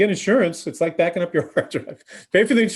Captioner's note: laughs